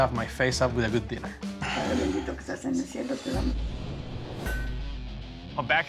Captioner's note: speaking spanish